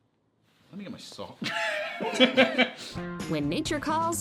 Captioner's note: laughs